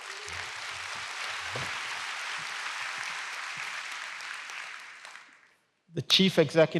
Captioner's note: applause